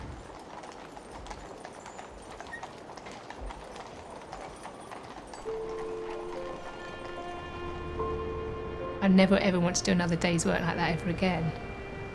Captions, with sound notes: (hooves clopping) (pensive music) I never ever want to do another day's work like that ever again.